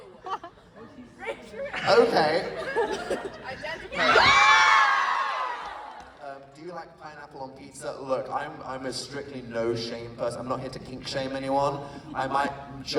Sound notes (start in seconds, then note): 5.5 applause